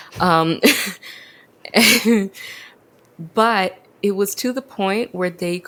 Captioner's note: laughs